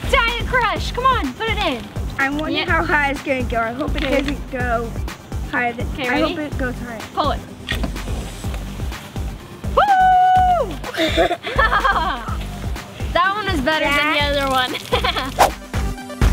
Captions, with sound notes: Diet Crush, come on, put it in. - I wonder how high it's gonna go. I hope it doesn't go higher ... I hope it - Okay, ready? - goes high this time. - Pull it. Woo! (laughter) That one was better than the other one. (laughs)